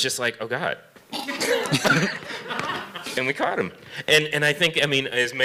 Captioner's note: laughter